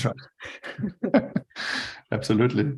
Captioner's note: both chuckles